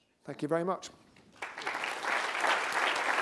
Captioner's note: applause